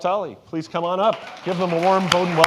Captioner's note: audience applauding